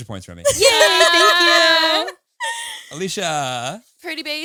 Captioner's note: all laughing